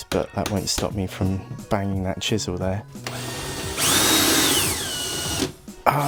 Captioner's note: sawing noise